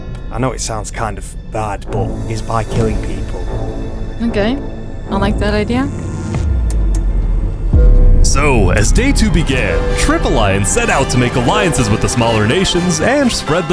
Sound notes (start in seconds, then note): none